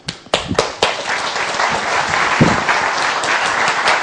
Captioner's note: applause